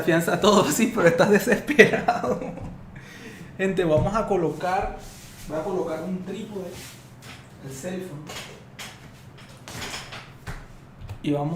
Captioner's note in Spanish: risas